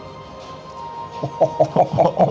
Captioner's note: laughs